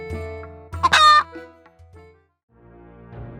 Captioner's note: hen cackling